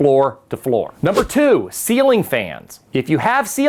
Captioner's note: letters whoosh